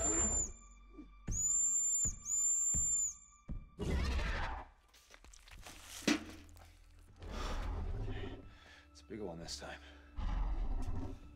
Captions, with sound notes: (dinosaur growls) It's a big one this time.